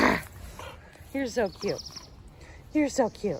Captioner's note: human Growls